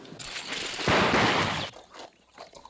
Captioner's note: gunshots